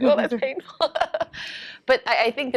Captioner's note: laughs